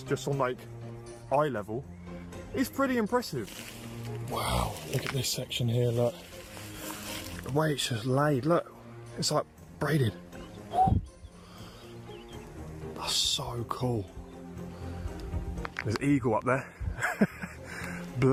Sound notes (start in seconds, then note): 10.4 whistles; 16.9 laughs